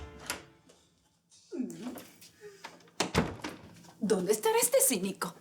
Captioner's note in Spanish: Sonido al entrar